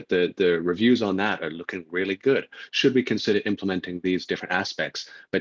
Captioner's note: laughs